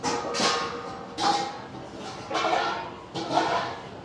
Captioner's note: pans clanging